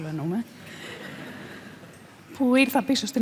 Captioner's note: laughter